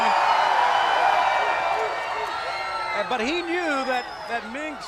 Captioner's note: crowd cheering